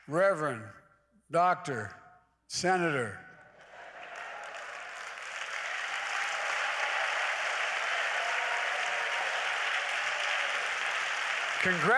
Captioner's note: applause